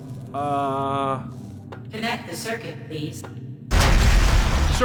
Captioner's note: computer voice